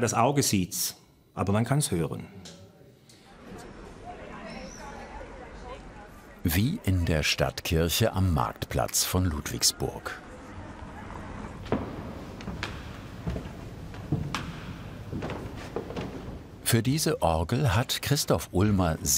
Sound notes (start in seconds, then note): 3.2 bubble of voices; 10.3 footsteps approach